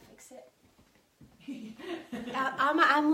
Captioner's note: laughing